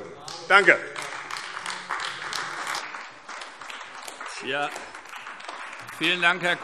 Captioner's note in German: Beifall AfD